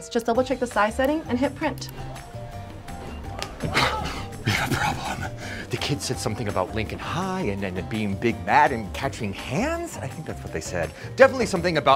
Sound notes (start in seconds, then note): 2.9 yells